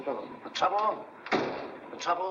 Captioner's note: door closes